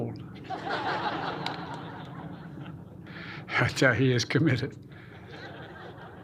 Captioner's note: laughter; laughter